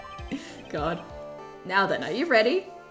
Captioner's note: laughing